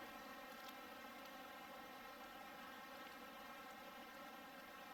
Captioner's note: burbling water